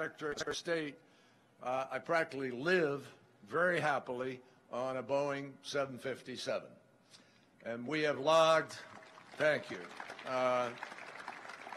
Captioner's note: applause